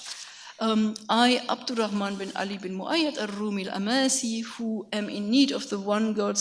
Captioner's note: speaks in a foreign language